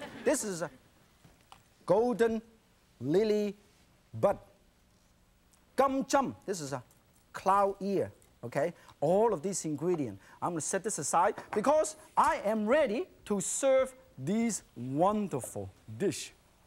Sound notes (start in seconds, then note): 5.6 speaks in foreign language